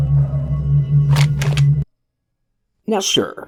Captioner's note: gun unholsters